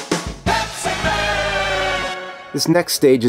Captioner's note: pitched down